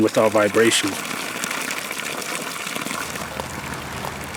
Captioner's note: flowing spring water